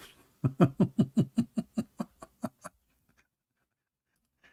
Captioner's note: laughing